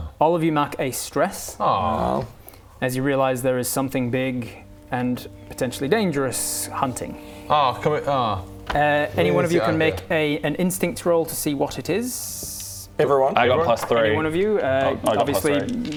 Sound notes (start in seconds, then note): 1.6 stressed noises